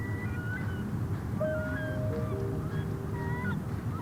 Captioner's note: seagull calling